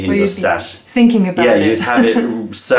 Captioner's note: laughter